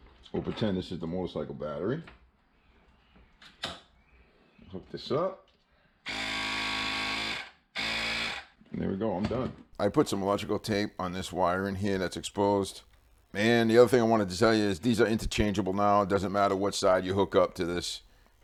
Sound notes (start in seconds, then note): 6.0 air compressor running